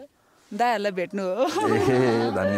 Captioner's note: laughter